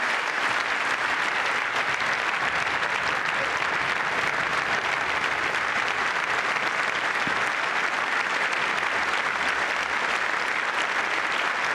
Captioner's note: applause